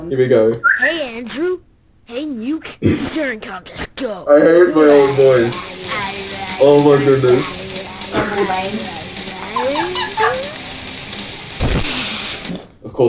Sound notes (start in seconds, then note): 2.9 cracks up; 5.4 young makes silly sounds; 9.0 laughs, noises get high pitched, mouth explosion